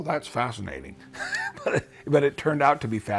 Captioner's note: laughs